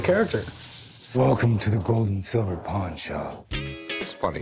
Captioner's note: deep voice